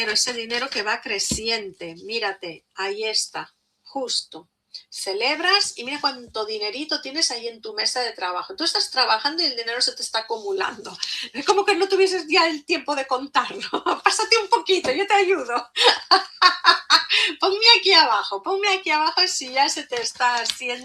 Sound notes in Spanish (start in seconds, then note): 15.7 risas